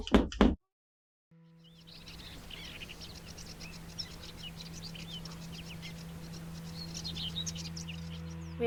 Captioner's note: birds chirping